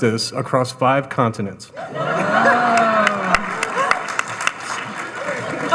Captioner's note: audience laughing